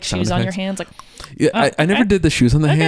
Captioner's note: clicking tongue